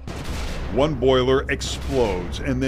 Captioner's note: explosion noise